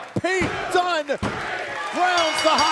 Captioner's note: bell ringing